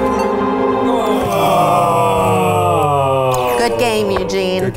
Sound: dramatic music; groaning

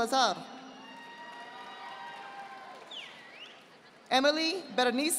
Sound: audience applauding

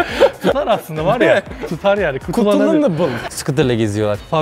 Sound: mix of languages

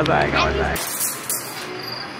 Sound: glass and dreams shatter

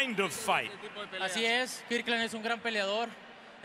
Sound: speaking Spanish

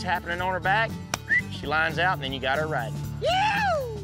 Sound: whistles

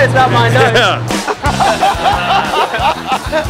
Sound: laughter

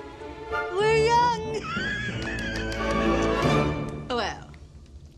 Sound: laughs and claps

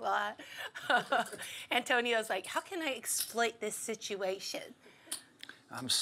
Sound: laugh

